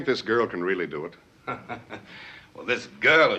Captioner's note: chuckles